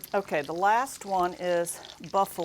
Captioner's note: sizzling sound effect